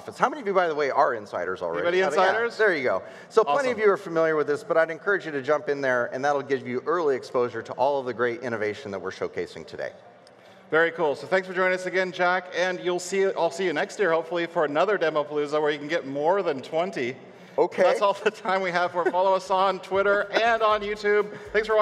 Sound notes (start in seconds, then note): 17.7 laughs